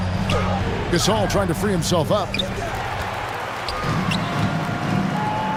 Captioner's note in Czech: Potlesk